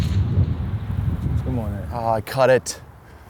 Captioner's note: none